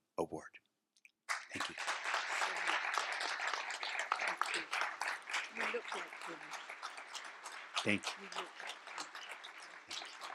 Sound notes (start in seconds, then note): 2.7 applause